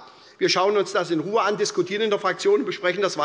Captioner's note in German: none